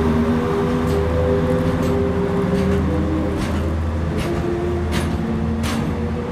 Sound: train departing?

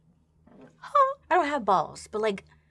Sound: exclaims

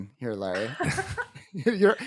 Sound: laughs

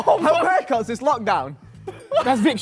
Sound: laughs

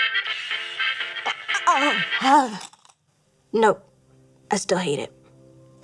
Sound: groans

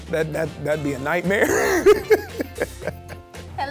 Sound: laughing

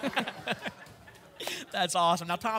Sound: laughter

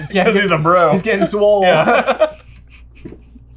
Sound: laughter

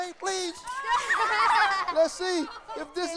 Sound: laughter

